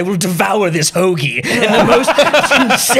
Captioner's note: laughter